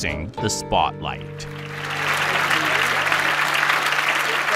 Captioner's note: applause